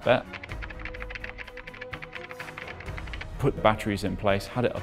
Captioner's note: keyboard keys chattering